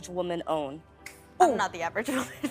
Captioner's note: snapping